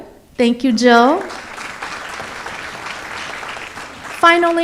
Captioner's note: audience applauds